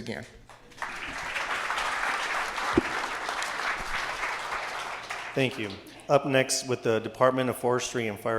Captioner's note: applause